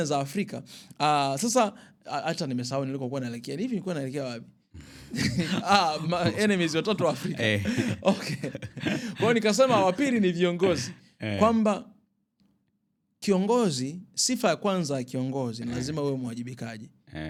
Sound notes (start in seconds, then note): 4.8 clears throat; 4.8 snorts; 8.5 laughter